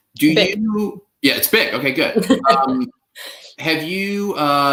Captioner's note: laughs